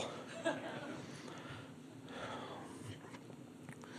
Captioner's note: crowd laughs